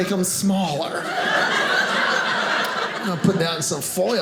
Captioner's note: audience laughing